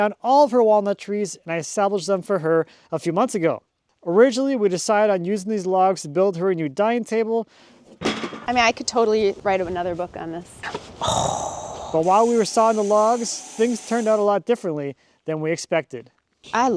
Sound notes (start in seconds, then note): 8.0 wood thudding